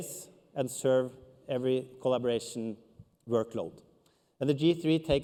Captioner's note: none